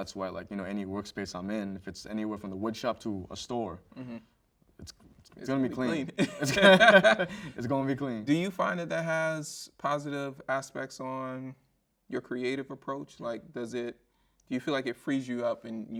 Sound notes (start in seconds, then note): 5.9 both chuckle